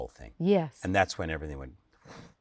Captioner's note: breath whooshes